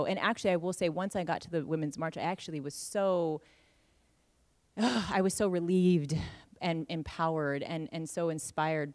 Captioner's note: big breath out